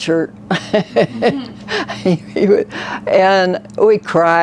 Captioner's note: laughs